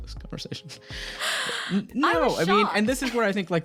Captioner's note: gasping